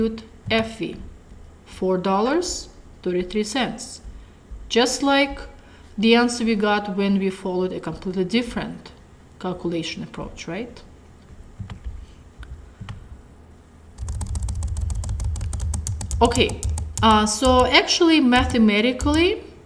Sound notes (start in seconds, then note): 13.9 typing sounds